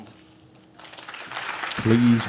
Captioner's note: audience claps